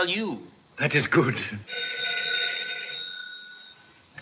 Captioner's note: phone rings